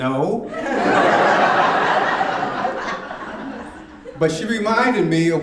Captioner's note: audience laughing